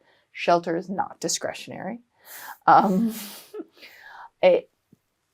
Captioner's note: both chuckling